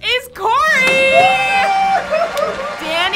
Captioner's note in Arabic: كوري يصرخ